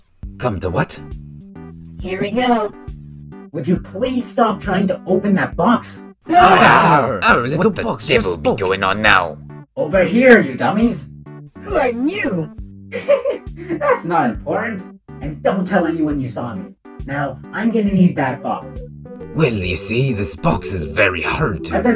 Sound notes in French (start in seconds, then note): 6.3 exclamations de surprise; 12.9 rire